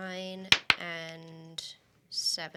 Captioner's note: rolls dice